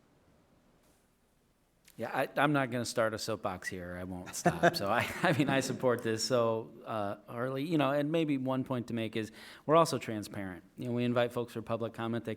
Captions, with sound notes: - Yeah I'm not gonna start a soap box here or I won't stop. (people laughing) So I mean I support this. So or you know and maybe one point to make is we're also transparent, you know we invite folks for public comment